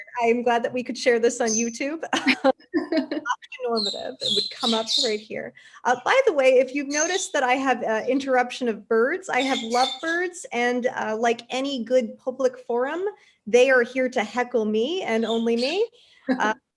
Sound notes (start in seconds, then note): 2.1 both laugh; 16.3 laughs